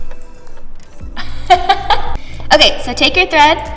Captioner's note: laughs